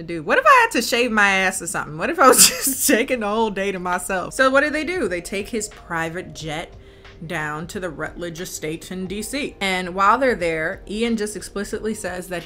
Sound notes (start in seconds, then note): 2.5 laughs